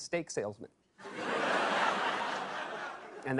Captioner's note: laughter